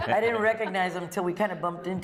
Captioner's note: laughter